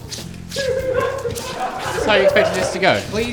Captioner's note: laughter